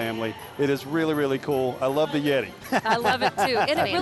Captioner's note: laughing